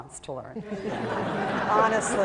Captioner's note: laughter